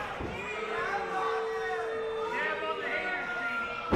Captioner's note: crowd booing